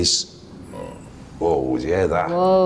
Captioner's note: metallic sound